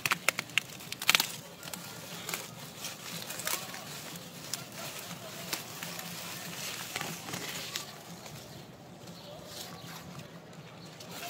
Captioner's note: rustling sound